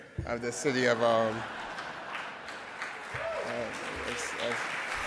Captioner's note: audience laughing